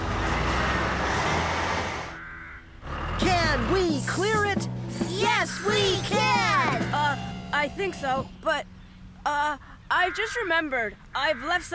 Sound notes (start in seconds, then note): 0.0 engines Running